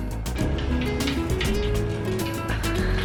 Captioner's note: fireplace sounds play in background